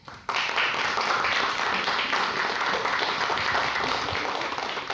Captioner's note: audience applauding